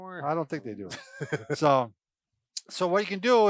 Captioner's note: laughs